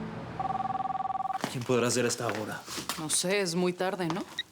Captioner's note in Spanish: Suena el teléfono